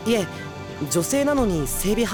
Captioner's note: none